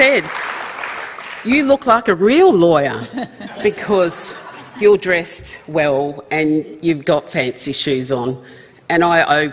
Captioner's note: applause